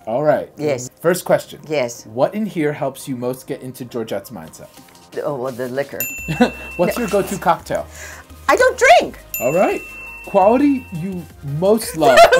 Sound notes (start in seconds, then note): 6.9 snicker